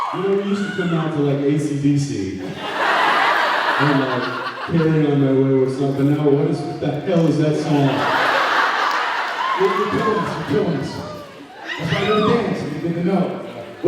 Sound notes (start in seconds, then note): 0.0 cheers, applauds; 2.5 laughs; 7.8 laughs; 10.4 laughs, yells out comments